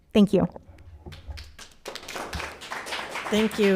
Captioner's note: crowd applauding